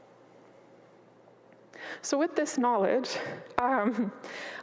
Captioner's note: chuckles